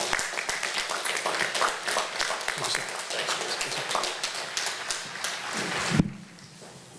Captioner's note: applause